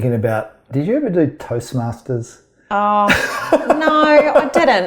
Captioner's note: laughs